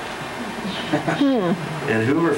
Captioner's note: laughs